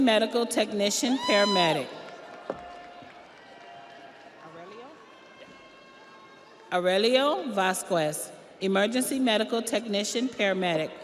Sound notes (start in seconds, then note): 4.8 audience applauds; 4.8 audience cheers